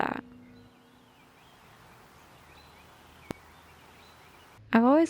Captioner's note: even more birds chirping